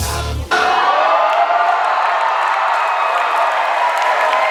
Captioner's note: cheering and applause